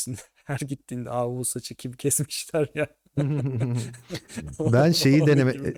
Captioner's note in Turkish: kahkaha